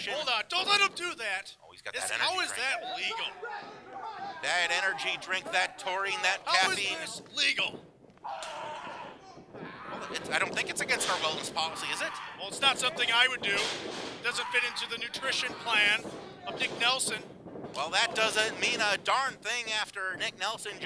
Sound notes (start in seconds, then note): 8.2 screaming; 11.8 screaming; 14.3 screaming